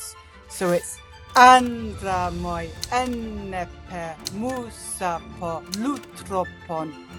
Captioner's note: speaks ancient Greek